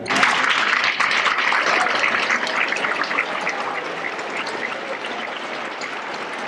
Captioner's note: applause